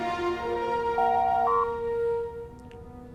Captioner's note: door Chime